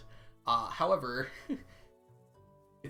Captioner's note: chuckles